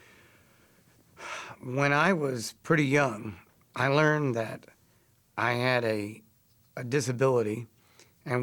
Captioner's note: sigh